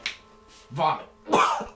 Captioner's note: coughs